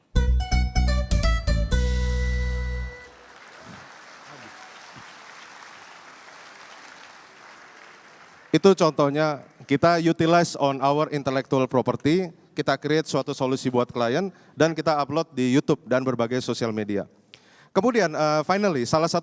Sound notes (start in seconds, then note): 2.9 applause; 9.1 non-english speech